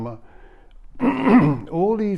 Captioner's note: clears throat